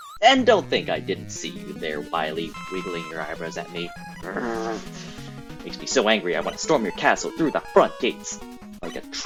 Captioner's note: irritated growling